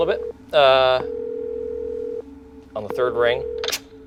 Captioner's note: phone ringing